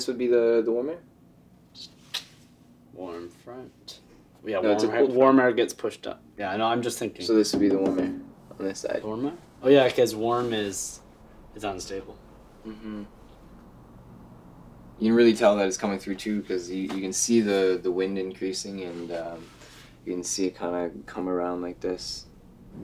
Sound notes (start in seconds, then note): 1.9 sucks teeth; 7.5 tapping glass; 22.6 thunder rumbles